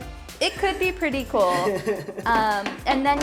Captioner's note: laughs